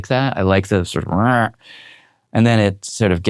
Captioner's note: Jad mimicking preamps